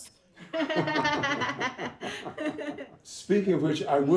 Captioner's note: all laughing